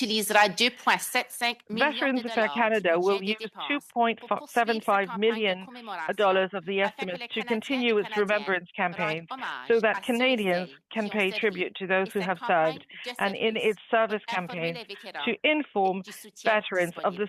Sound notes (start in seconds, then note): 4.5 speaking French